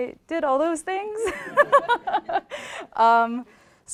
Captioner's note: laughter